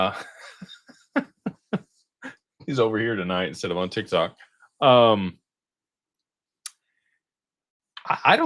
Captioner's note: laughter